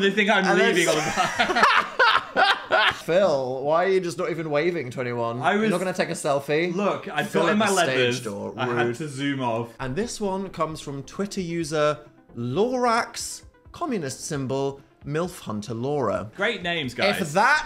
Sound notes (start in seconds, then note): 0.6 Dan laughs